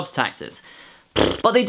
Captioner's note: buzzes lips